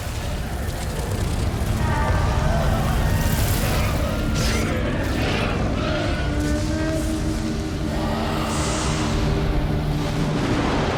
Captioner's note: wings fluttering